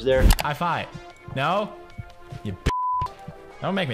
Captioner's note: beep